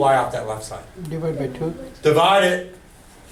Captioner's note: voiceover